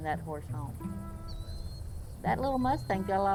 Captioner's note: birds chirping